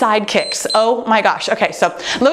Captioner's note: timer beeps